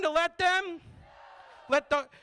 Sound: crowd

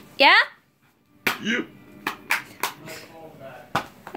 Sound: joey claps

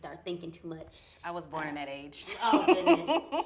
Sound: laughs

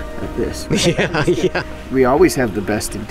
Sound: laughs

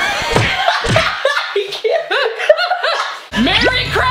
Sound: both laughing

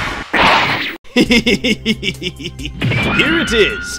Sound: laughing

